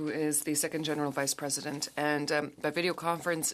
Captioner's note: speaking French